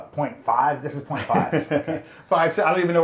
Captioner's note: laughing